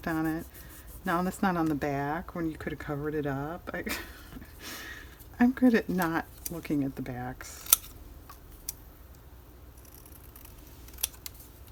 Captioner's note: laughs